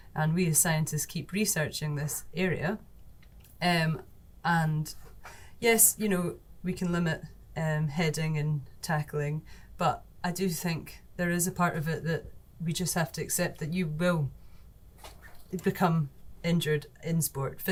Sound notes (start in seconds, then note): none